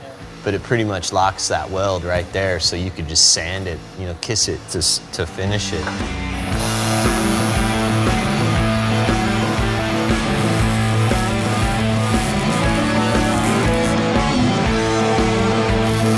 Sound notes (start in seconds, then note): 6.5 TIG buzz; 8.7 loud rock and roll